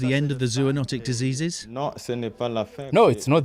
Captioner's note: non-english speech